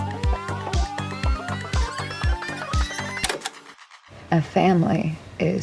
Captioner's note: upbeat synth music; tape fast forwarding